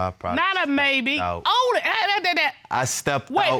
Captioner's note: stutters